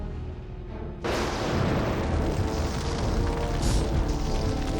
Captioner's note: thunderclap